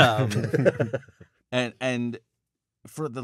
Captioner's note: laughter